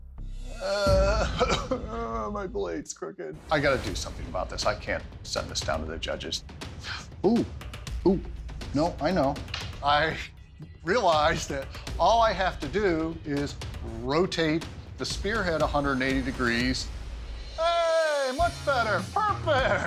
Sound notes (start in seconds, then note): 0.6 fake cry; 19.1 laughs